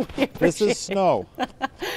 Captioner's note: laughter